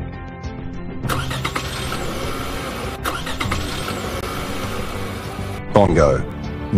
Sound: cars start

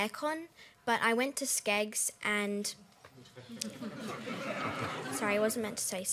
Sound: laughter

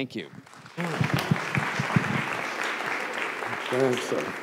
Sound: applause

